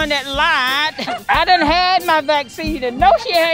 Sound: woman laughs

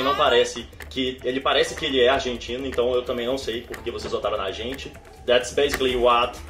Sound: continues speaking in Portuguese

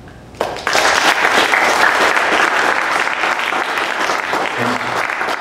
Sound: applause

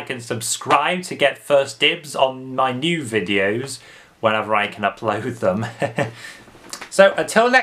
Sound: chuckles

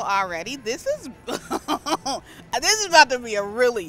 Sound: giggles

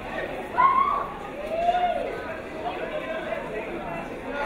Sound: crowd cheering

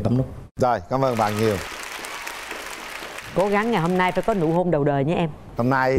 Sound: laughing and applause

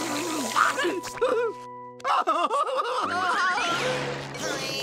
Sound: groaning

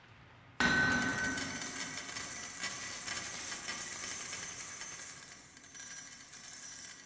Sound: money sound

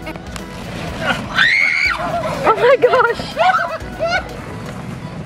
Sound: kids shrieking

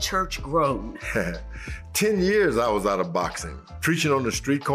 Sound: chuckling

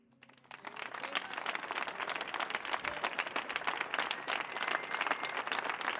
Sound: audience applauding; audience cheering

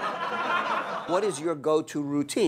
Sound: laughter

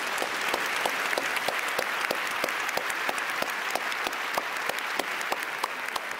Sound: applause

